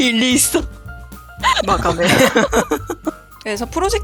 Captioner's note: laugh